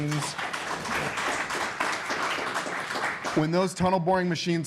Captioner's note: applause